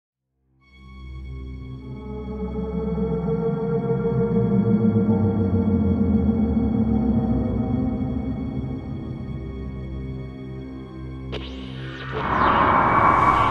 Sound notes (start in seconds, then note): 1.0 eerie music playing; 11.3 static